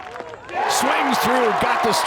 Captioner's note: fans applauding; fans cheer